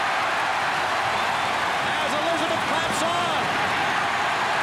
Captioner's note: applause